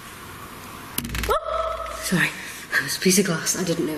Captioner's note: exclaims